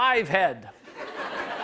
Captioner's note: laughter